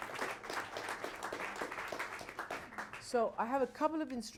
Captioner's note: applause